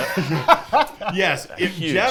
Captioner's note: laughter